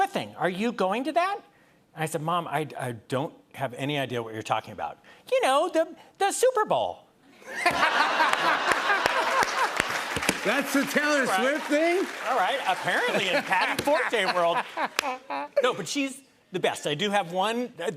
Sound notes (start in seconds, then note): 7.5 laughter and applause